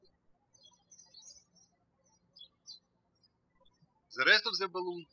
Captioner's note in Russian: птички щебечут